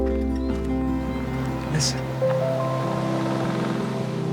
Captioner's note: wind rushing